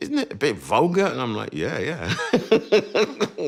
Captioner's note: laughs